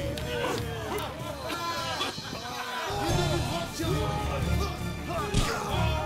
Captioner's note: jeering and laughing; shouting and cheering continues